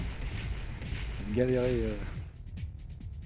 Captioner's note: shooting enemies